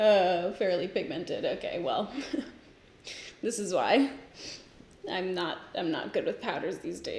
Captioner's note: giggles